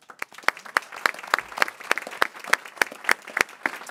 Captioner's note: people clapping